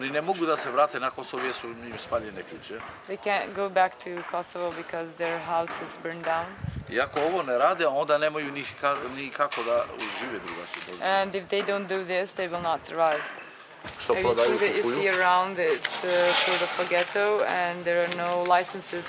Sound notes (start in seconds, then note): 0.2 speaks in foreign language; 7.0 speaks in foreign language; 13.9 speaks in foreign language